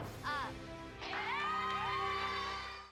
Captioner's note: applause